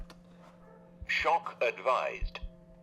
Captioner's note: robotic Voice